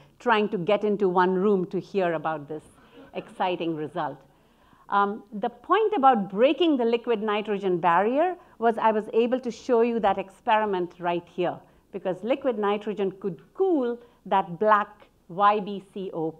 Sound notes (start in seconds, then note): 4.0 audience laughing